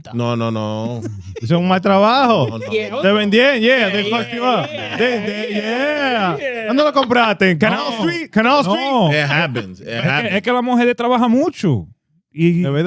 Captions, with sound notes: No, no, no. (Speaking In Foreign Language) Yeah, they fuck you up. (All Laughing) (Speaking In Foreign Language) It happens. (Speaking In Foreign Language)